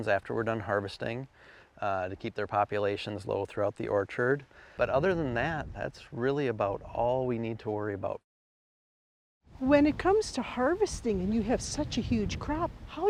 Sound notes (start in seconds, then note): none